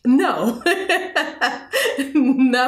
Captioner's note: laughs heartily